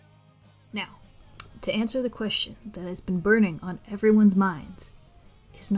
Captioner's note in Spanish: clic con la lengua